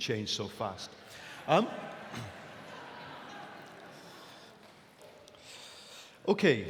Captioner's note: laughter